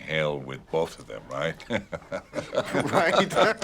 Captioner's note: laughs